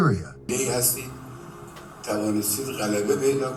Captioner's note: speaking in a foreign language